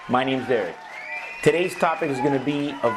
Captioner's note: applause